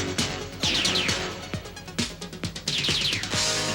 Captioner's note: lasers firing